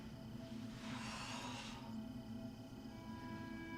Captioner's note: exhales sharply